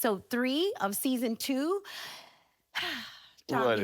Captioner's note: sighs